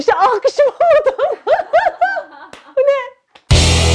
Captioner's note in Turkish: gülüşmeler